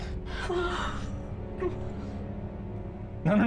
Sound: women gasp

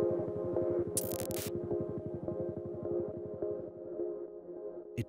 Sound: static crackling

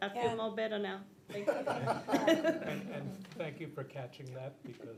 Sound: audience laughs

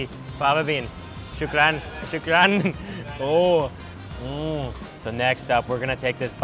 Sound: speaks in foreign language

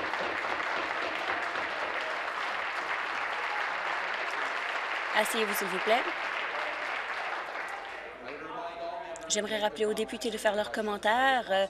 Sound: applause

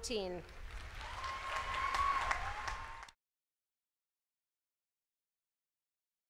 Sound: applause

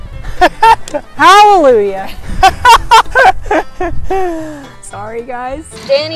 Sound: laughs; laughs

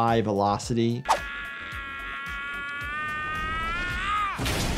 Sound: yelling

